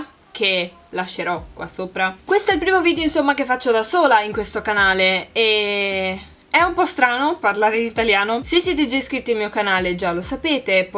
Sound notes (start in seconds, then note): 4.4 in Italian